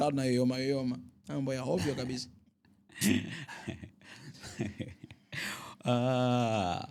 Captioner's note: laughter